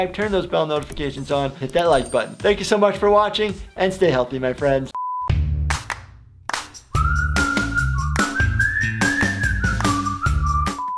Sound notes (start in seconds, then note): 4.9 beep; 6.6 upbeat music